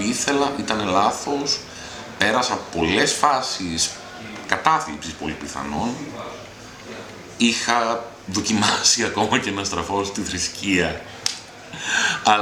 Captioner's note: laughing